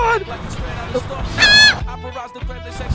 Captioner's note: noot